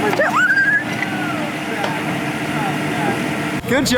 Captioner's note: screams